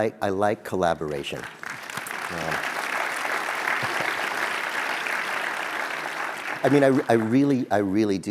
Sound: applause

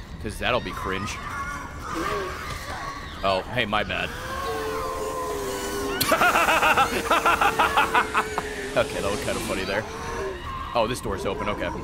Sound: laughs

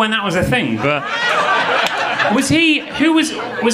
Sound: audience laughing

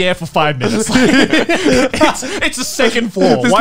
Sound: everyone laughs

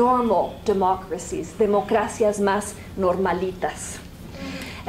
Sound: spanish

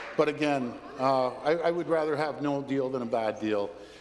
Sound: applause

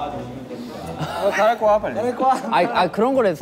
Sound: crying

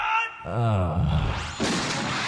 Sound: sigh; explosion

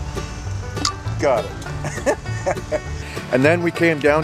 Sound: chuckle

